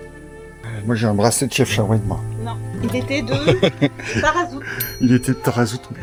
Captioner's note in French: rires